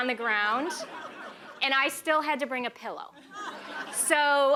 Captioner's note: laughter